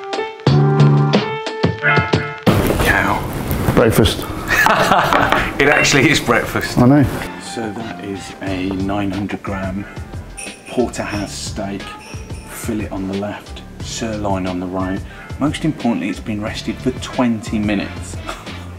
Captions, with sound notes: Holy cow! Breakfast.(Laughs) It actually is breakfast. I know. So that is a 900 gram porterhouse steak fillet on the left sirloin on the right. Most importantly it's been rested for 20 minutes.